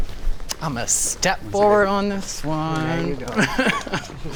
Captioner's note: laughs